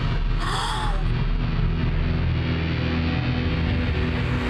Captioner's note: gasping